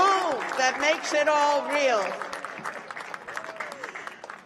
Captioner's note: cheers and applause